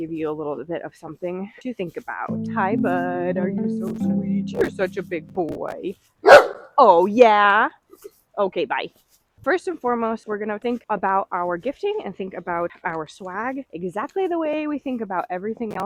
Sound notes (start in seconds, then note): 6.2 bark